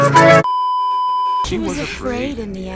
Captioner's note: beeeeeeeeeeeep